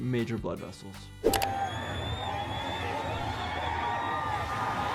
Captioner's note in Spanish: Aplausos de la audiencia